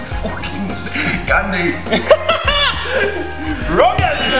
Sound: laughter

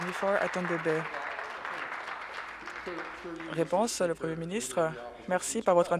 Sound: applause

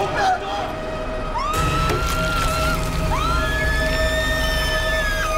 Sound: screams

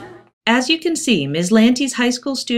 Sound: voiceover

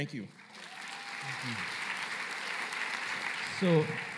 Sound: applause

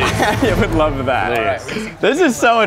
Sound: laughs

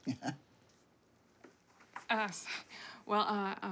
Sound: chuckling

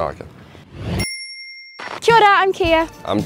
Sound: ding

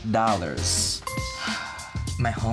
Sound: bell dings; Bretman sighs

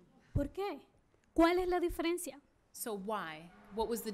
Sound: speaking spanish

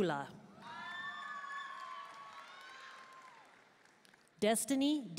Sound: audience cheering and applauding

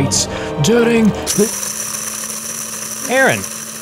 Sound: coffee maker grinding

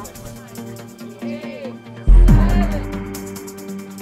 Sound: crowd

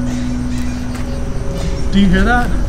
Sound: eerie squeaking

